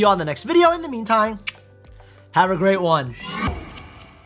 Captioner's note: mouth clicks